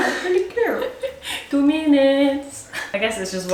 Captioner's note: Malaysian accent